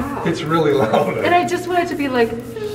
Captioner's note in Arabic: يضحك